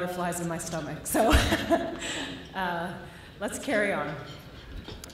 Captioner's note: laughter